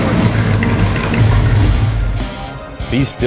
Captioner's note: engine shuts off